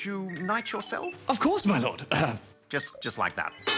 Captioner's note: clears throat